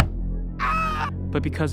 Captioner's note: scream